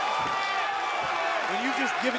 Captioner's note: cheers & applause